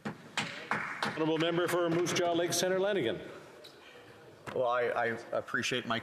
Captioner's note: speaking alternate language